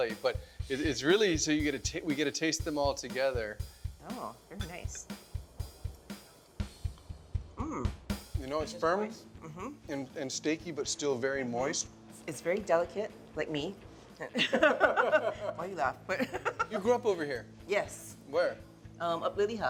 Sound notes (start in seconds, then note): 5.4 percussive music; 14.3 both laughing